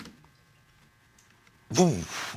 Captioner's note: exhales